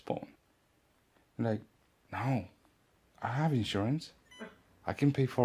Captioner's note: hospital equipment beeping